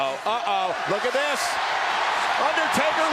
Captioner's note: crowd cheering